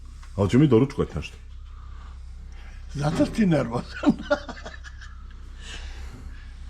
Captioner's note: laughter